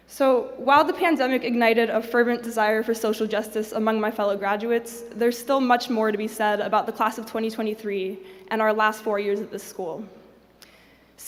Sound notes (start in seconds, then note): none